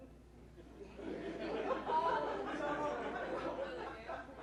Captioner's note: laughter